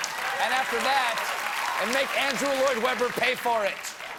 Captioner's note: applause